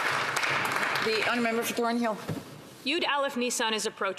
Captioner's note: some Applause